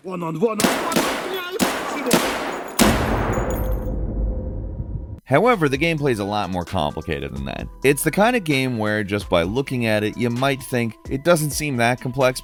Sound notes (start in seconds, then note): 0.6 guns blasting; 0.6 soldiers yelling